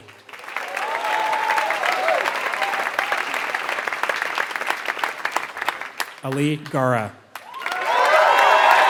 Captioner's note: applause